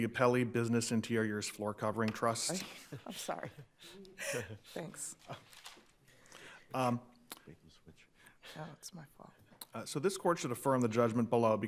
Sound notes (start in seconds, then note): 2.6 chuckling